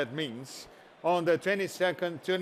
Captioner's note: applause